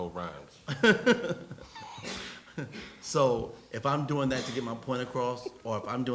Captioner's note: laughs